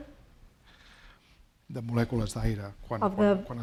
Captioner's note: speaking spanish